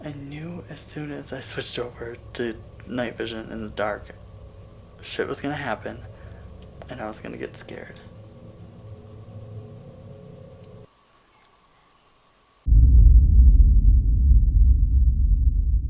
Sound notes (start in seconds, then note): none